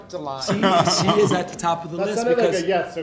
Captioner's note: laughing